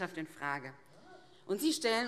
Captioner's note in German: Zurufe AfD